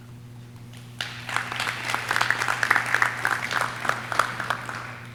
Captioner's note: audience clapping